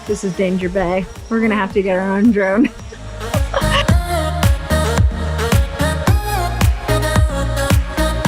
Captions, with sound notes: This is danger bae. We're gonna have to get our own drone (laughs). (relaxed dance music)